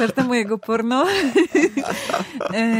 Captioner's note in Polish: śmiech